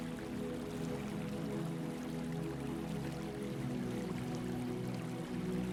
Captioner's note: water trickling